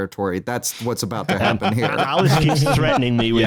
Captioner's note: laughter